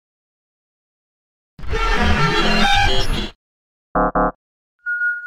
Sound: electronic tones

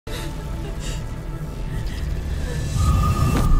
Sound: sobbing after All that just happened

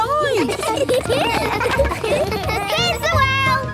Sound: laughter

